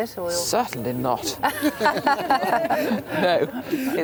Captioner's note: both laugh